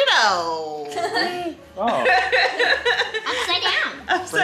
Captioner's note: everyone laughing